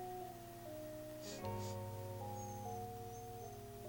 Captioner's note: sniff sniff